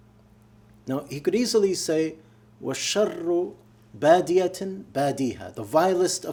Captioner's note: speaking arabic